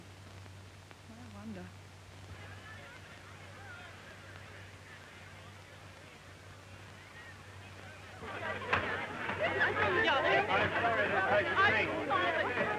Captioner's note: crowd chattering